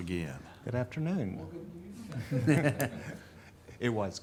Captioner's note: group laughing